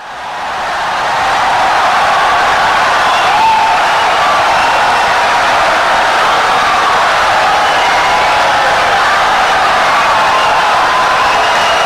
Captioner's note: wild applause and cheering for 17 seconds